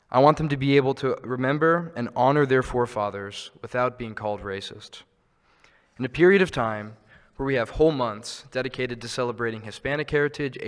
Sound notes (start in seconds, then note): none